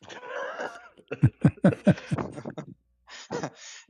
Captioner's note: ketawa